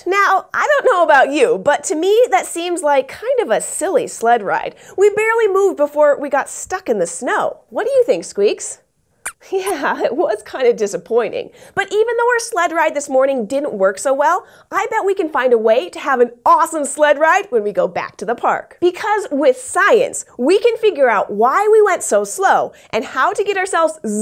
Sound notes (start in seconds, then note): 9.0 squeaks squeaks